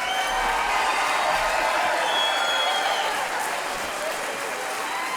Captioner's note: audience cheering; audience clapping